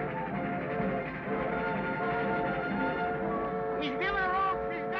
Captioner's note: train chugs; upbeat music